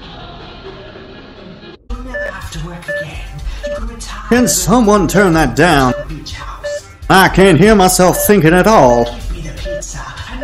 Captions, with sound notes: (monitors beeping) - Can someone turn that down? I can't hear myself thinking at all.